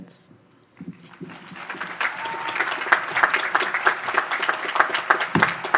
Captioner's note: audience applause